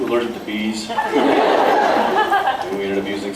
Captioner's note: laughs